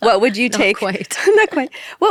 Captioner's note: laughs